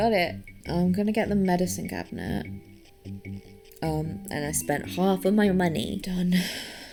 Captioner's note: sighs